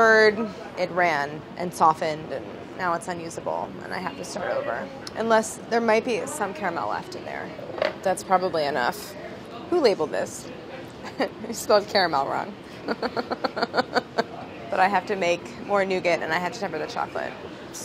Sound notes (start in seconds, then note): 12.7 laughing